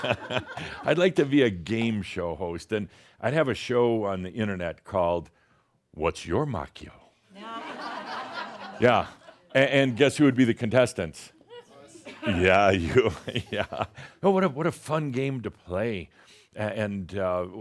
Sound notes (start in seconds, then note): 7.7 more chuckles; 12.1 chuckles